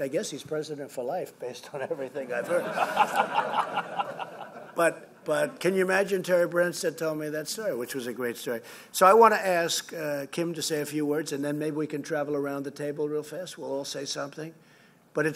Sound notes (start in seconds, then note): 2.4 laughter